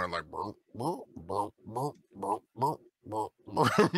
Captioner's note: Alfred croaks